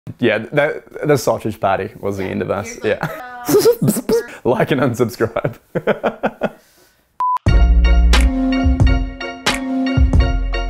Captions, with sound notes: - Yeah, the sausage party was the end of us. Like and unsubscribe. (laughter) (instrumental music)